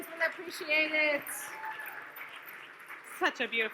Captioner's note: audience cheers